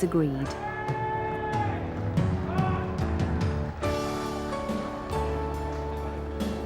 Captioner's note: gentle music; crowd cheering